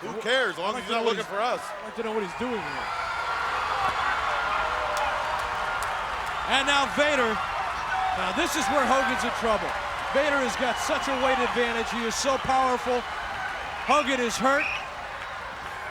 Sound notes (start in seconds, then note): 4.2 audience cheering